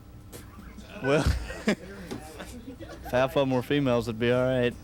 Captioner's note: laughter